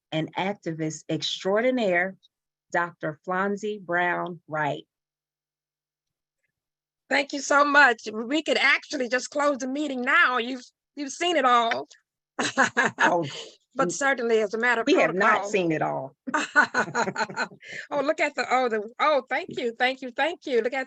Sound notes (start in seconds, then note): 12.4 chuckling; 16.2 laughing; 16.3 chuckling